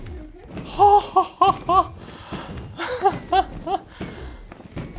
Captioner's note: exclaims in Relief